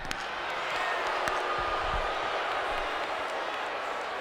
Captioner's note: audience booing